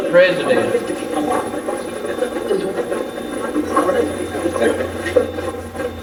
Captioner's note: Steve's Box chatters